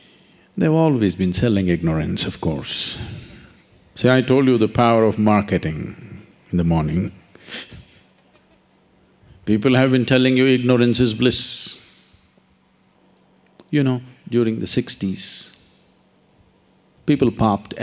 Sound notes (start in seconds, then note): 7.5 laughs